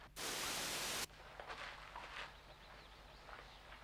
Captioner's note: static crackles